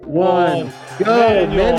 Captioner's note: bell ringing